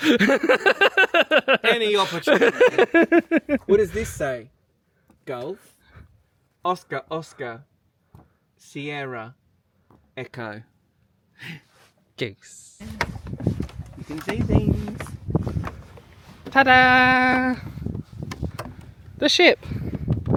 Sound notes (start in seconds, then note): 0.0 laughing; 13.3 wind whipping; 17.9 wind whipping